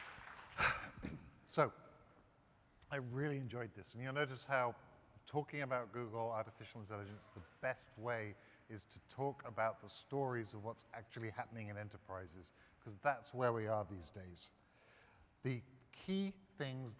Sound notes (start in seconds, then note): 1.8 applause